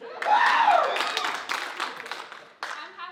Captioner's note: audience loudly cheering